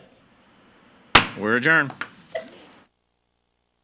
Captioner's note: gavel banging